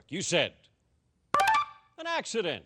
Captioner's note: beeping